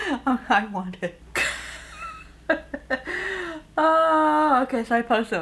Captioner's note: chuckles; laughs